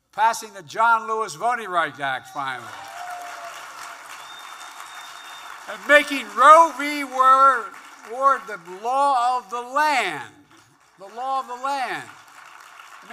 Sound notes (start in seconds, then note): 3.4 applause